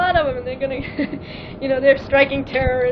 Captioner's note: laughing